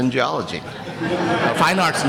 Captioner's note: chuckling